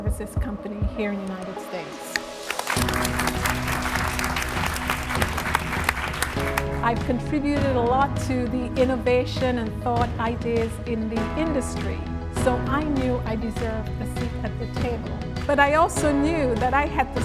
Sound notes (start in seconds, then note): 2.2 applause